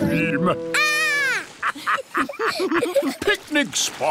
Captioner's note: laughter